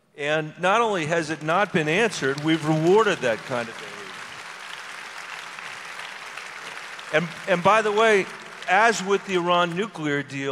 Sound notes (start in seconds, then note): 4.6 audience applause